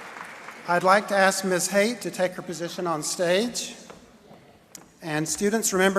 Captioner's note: cheering